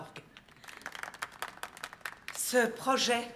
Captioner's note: applauding